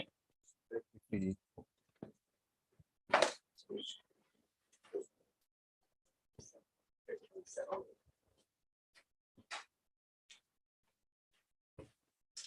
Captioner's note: indistinct conversation